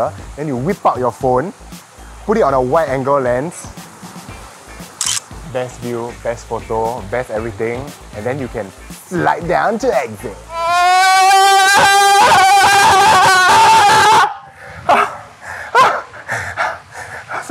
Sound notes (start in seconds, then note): 5.0 snaps picture; 10.5 extended scream; 14.7 panting